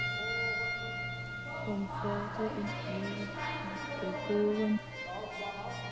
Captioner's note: speaks in german